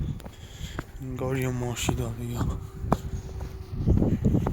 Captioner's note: like a car is coming from afar